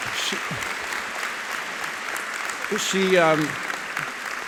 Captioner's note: audience applauding